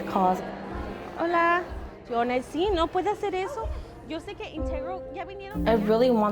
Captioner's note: speaking Spanish